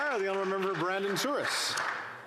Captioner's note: applause